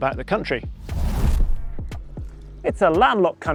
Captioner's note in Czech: foukání větru